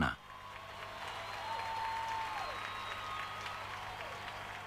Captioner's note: crowd cheering